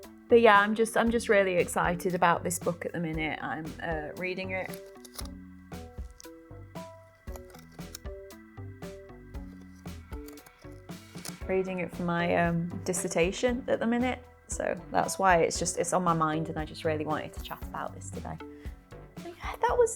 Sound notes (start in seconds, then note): 5.2 satisfying rustling noise